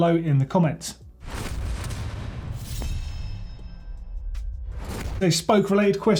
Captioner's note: metallic percussive sound